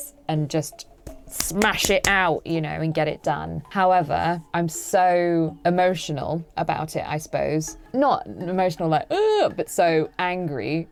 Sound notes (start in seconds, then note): 1.3 claps hands together; 8.8 cries